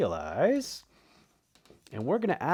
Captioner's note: marker scratching